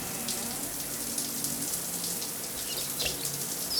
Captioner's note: creaking